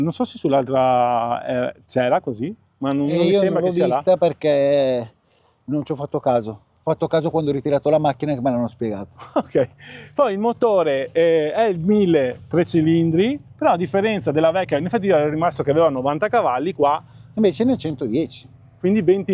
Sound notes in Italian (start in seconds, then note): 9.1 risate